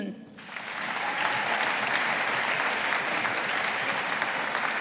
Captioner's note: audience applauding